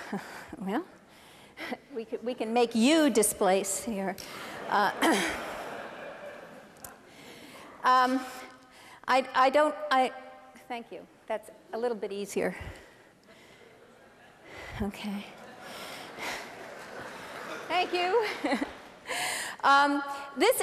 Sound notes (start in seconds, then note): 4.3 laughter